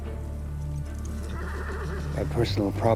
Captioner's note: horse neighing